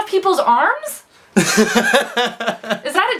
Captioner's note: laughs